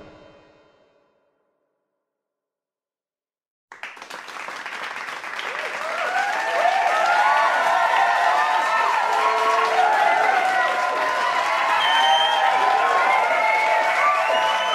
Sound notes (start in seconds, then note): 3.7 cheering and applauding